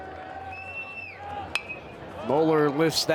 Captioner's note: bat dings